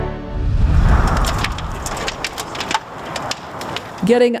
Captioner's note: fire crackling